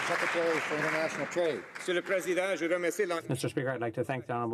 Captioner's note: some Applause